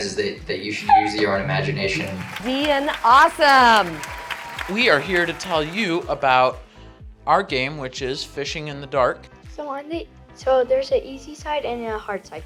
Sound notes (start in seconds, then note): 1.6 crowd clapping